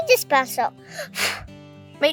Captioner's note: blowing